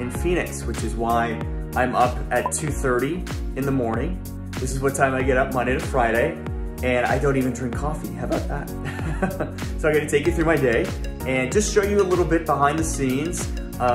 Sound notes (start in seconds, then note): 8.8 chuckling